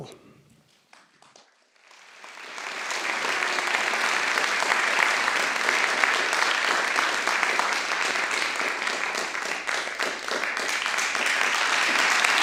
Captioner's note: applause